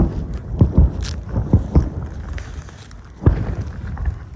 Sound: far cannonade

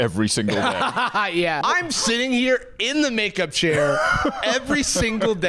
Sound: laughing

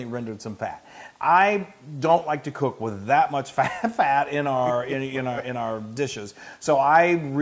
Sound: laugh

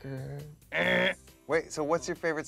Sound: Michael buzzes

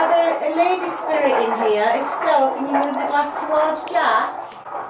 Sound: chatter

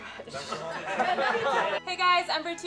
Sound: laughter

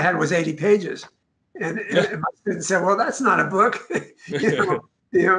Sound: laughs

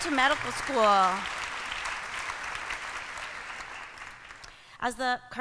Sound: applause

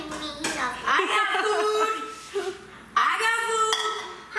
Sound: laughing

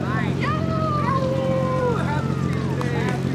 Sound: howling excitedly

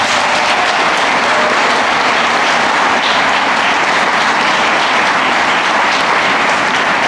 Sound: applause

